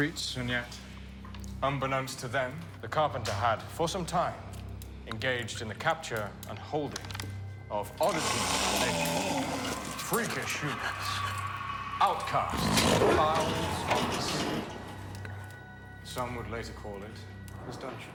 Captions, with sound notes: and yet unbeknownst to them, the carpenter had for some time engaged in a capture and holding of oddities of nature, (prisoner growling) freakish humans outcasts, (prisoner growls) fouls, some would later call it his dungeon.